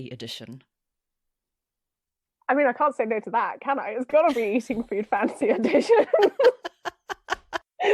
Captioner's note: laughs